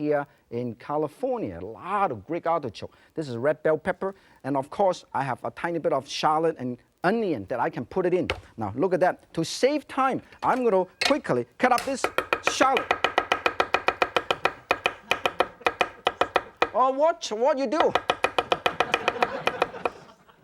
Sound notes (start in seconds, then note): 11.8 loud chopping; 18.8 laughter